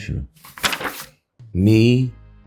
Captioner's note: pages shuffling